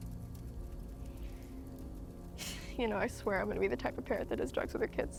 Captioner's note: inhales and exhales